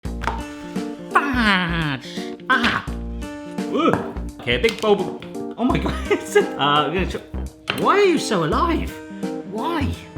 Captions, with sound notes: - Fudge! Ah! Ooh! Here a big bulb oh my god it's (laughs) We're gonna chop Why are you so alive, why?